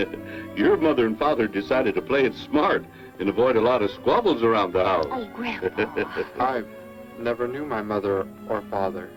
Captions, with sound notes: Your mother and father decided to play it smart, and avoid a lot of squabbles around the house. Oh, grandpa! [ GRANDPA LAUGHS ] I never knew my mother or father.